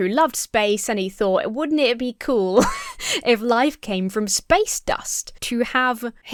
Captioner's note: laughs